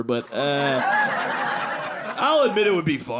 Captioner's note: audience laughing